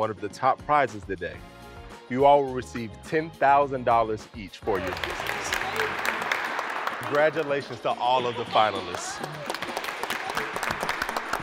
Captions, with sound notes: of the top prizes today, you all receive $10,000 each for your business. (applause) - Congratulations to all of the finalists. (applause)